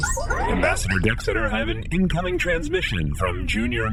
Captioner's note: beeps and boops of an incoming transmission